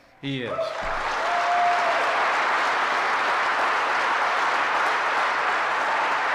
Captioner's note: applause